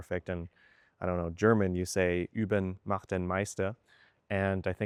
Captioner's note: in German